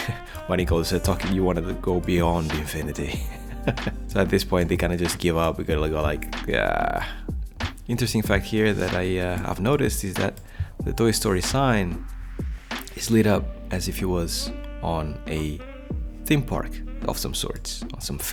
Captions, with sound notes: (laughs) Bunny goes, start talking, you wanted to go beyond infinity (laughs). So at this point they kind of just give up. They're all like ah. Into scenes like here that I have noticed is that the Toy Story sign is lit up as if it was on a theme park of some sorts,